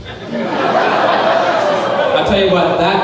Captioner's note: crowd laughing